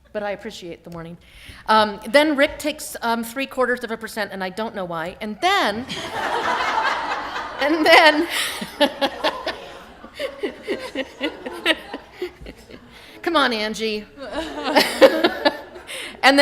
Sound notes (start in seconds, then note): 5.8 laughter